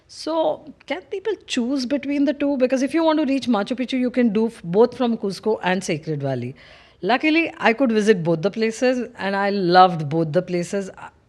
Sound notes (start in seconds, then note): none